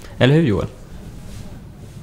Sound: none

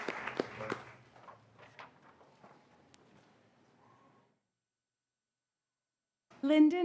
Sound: applause

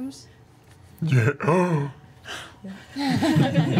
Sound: gasps; all laugh

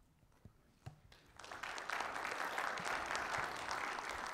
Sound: audience applauding

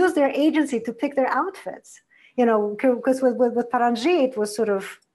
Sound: foreign language

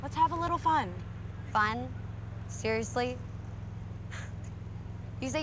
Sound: huffs

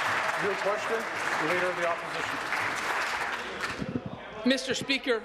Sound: applause

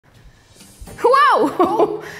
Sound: laughs

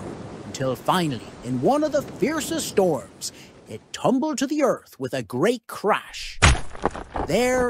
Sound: thud

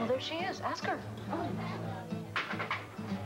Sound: quickly raps on window to get her attention; chair pushed back on floor; raised voice

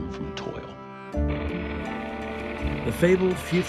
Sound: tractor rumbling

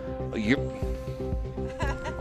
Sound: laughing

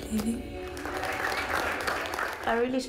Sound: students clapping

